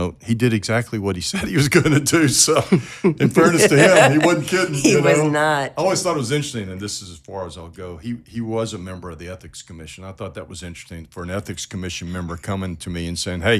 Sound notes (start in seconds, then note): 2.6 laughing